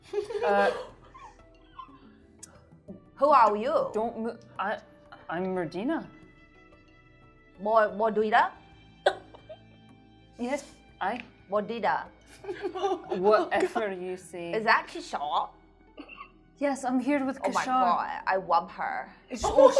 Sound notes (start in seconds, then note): 0.1 laughing; 9.1 laughing; 12.5 laughing